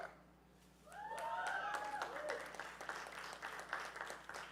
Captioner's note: audience cheering